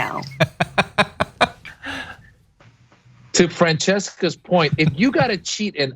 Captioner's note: laugh